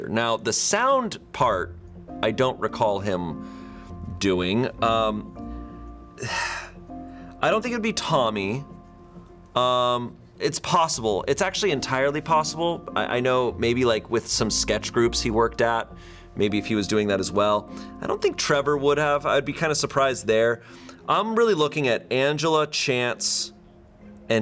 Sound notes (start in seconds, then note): 6.1 sighs